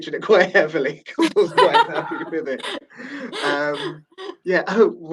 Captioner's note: laughing